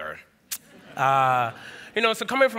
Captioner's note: laughter